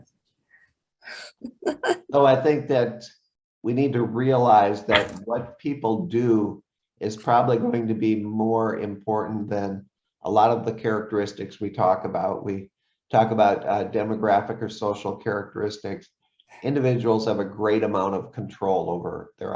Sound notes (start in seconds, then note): 1.4 laughs